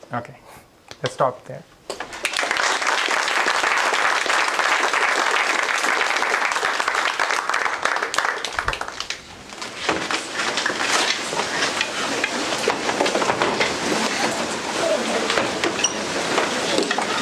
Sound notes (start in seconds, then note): 2.1 applause; 8.1 indistinct conversation